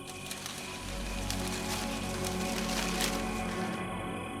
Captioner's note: corn stalks rustling